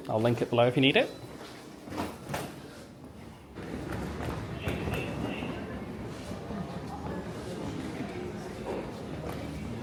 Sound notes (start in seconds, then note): 3.6 luggage clacking faintly